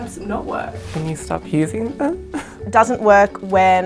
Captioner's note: laughs